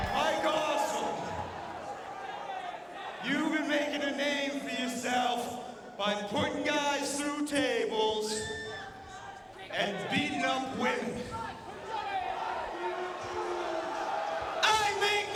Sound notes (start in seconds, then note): 0.0 crowd chattering; 12.0 crowd vocalizing